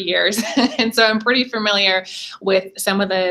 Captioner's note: laughs